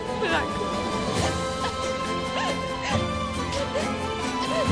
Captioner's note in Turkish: ağlıyor